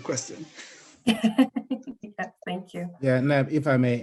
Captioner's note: laughs